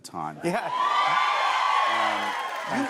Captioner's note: cheers and applause